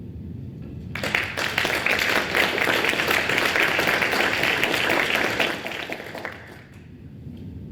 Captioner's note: applause